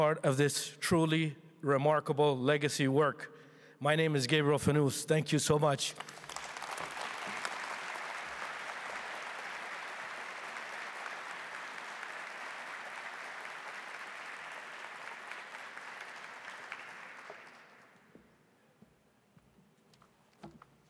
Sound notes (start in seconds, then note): 8.1 applause